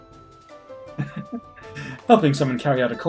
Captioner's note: chuckles